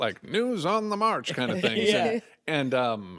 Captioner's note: all chuckle